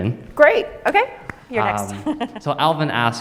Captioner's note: laughs